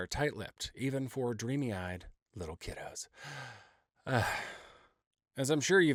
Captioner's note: sighing